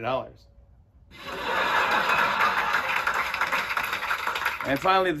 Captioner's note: laughter and applause